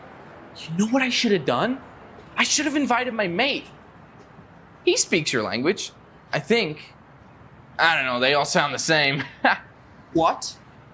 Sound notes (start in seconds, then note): 9.0 Joe laughs